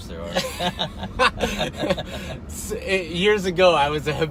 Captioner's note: laughing